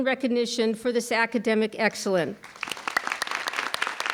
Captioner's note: audience clapping; clapping